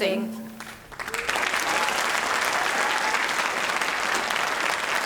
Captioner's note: audience applauding